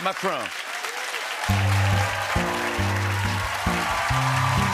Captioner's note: cheering and applause